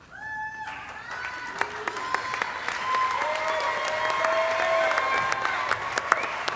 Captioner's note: audience applauding and cheering